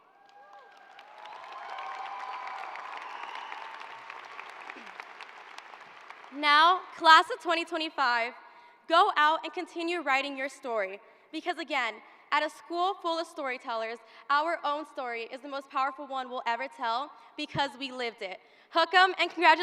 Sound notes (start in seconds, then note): 5.6 cheers and applause